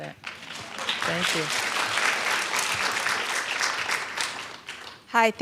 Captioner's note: applause